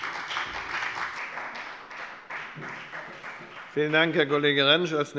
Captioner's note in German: Beifall bei der FDP und bei Abgeordneten der SPD